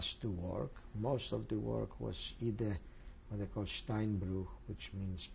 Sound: speaking german

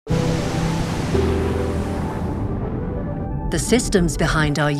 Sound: waves rolling; inspiring music

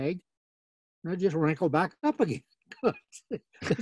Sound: laughing

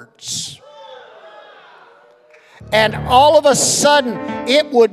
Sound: congregation shouting

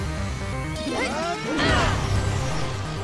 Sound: all grunt

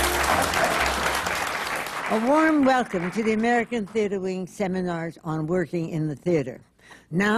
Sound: applause

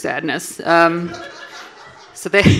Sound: audience laughing

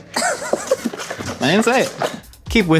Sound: laughs

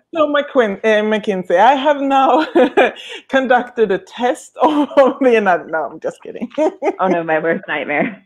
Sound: laughing

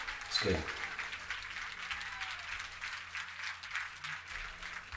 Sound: applauding on TV

